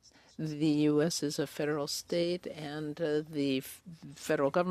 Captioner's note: speaking French